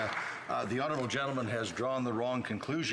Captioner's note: some Applause